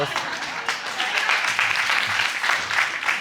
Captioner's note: audience applauding